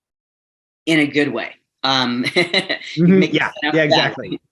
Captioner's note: laughs